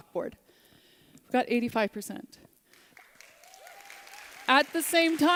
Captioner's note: applause